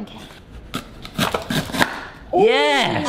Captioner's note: tomatoes crunching